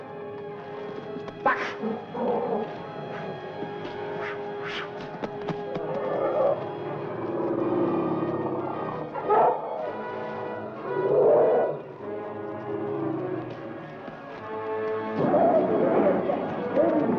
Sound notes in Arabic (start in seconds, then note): 3.2 قرقرة الفيل; 3.2 موسيقى درامية; 15.7 أصوات الفيلة والضجيج; 15.7 موسيقى درامية